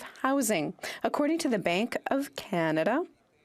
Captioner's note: speaking French